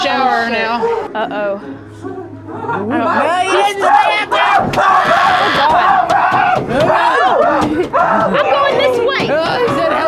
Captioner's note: maniacal laughter